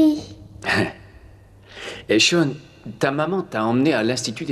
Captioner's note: laughs